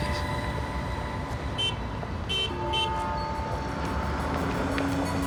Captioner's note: car horn beeping